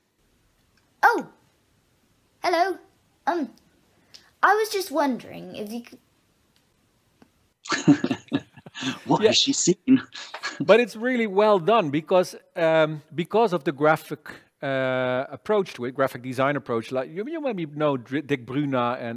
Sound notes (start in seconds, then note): 7.6 laughs